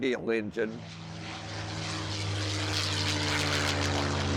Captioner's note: engine running